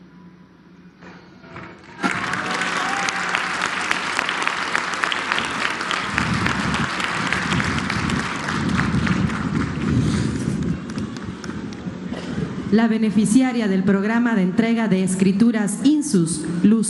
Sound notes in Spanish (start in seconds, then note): 0.0 aplausos